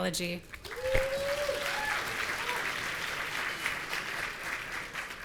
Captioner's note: audience cheering